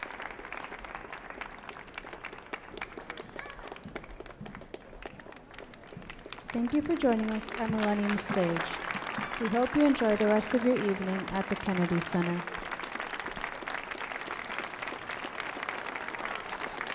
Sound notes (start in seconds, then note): 13.2 audience applauding